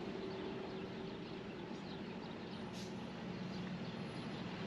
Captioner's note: birds chirping